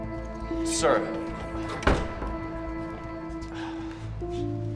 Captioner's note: door rattling; Drew sighs